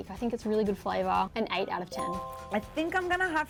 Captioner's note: chime